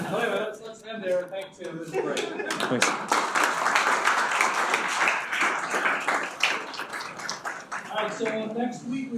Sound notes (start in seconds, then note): 0.0 students laugh; 2.4 students clapping